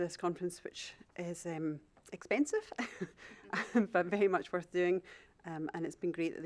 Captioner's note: chuckles